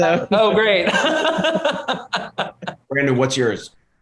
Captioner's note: laughter